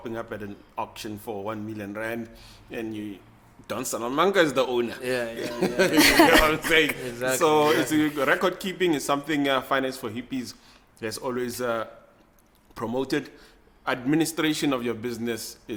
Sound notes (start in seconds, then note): 5.2 everybody Laughs